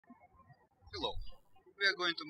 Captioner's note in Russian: птички щебечут